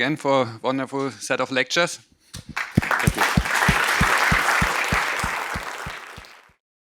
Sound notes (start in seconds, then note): 2.4 applause